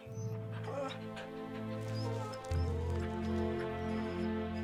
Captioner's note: Buck whines